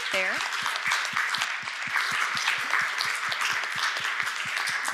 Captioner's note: audience applauds